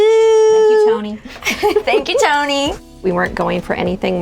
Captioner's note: laughing